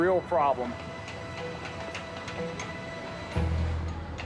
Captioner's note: hammering